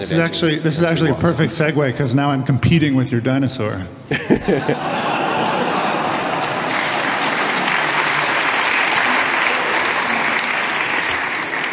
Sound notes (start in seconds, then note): 4.3 loud clapping and laughing